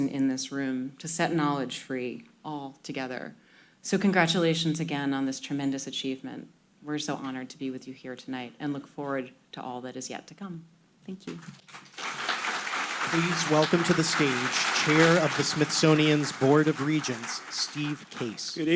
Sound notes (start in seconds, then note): 12.3 audience applauding